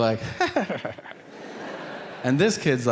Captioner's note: Tom chuckling